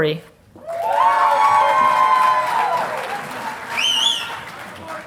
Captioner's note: audience applauding